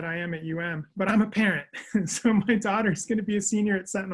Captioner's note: chuckles